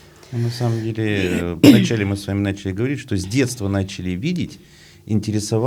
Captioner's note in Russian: откашливается